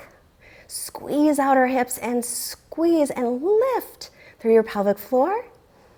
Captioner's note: deep breathing sounds